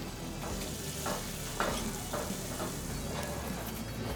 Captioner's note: meat sizzling